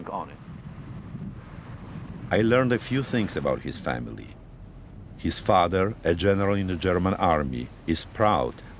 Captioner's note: voice-over